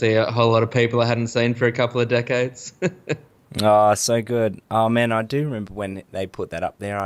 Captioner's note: chuckles